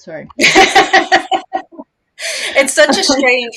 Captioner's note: laughs